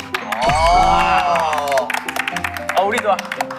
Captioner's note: applaud